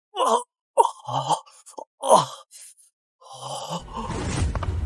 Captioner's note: sighs